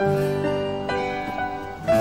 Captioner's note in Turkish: kapi zi̇li̇ çaliyor